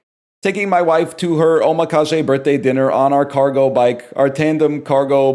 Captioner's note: sarcastically